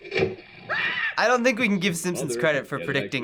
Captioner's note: Homer screams